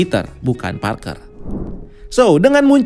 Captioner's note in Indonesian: suara transisi